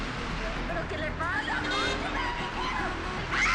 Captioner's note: dramatic music; screaming